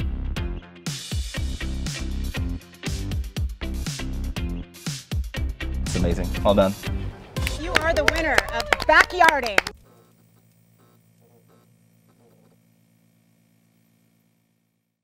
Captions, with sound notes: (upbeat music) - It's amazing, all done. - You are the winner of Backyarding! (clapping) (light buzzing)